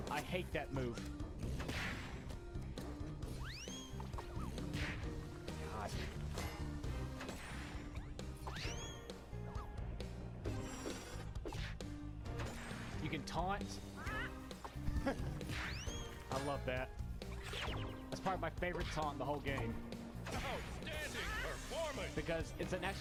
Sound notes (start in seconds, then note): 13.9 Spongebob clucking